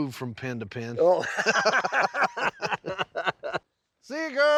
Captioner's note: both laughing